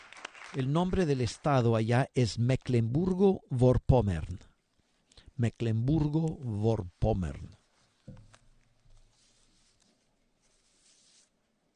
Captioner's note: applause